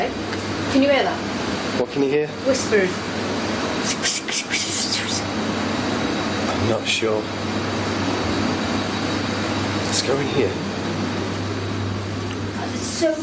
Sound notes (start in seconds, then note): 4.5 imitating whispers